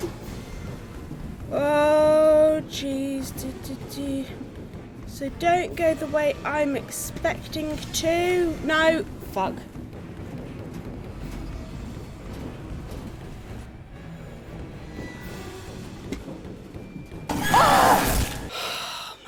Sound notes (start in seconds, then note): 0.0 humming/singing random tune; 17.4 screams loudly during jumpscare